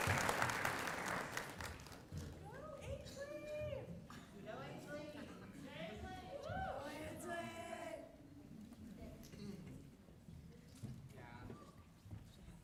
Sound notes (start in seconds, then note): 1.5 applause